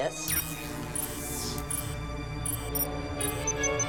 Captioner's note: device beeping